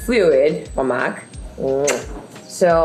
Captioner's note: kissing smack